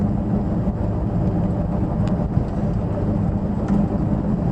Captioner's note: engine noise, low range gear whine